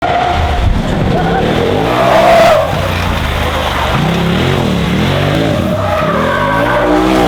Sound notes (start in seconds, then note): 0.0 tires screeching; 4.3 motor revving